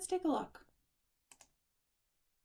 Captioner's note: click